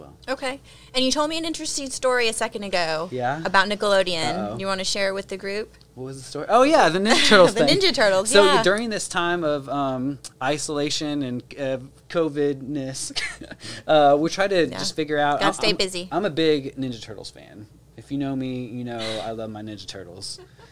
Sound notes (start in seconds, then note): 7.1 chuckles; 13.1 chuckles; 20.3 laughing